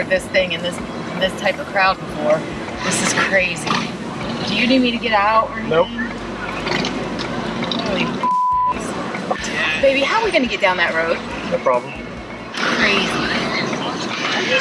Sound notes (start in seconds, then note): 8.0 beep